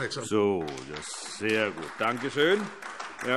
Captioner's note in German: Beifall AfD